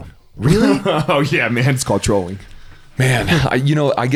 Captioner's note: laughs